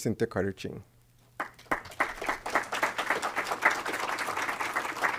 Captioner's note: applause